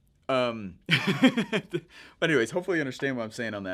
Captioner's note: laughing